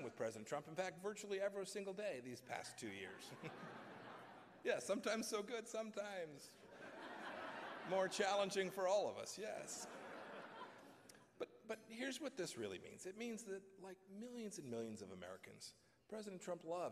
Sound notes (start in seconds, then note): 3.0 laughter; 10.7 laughter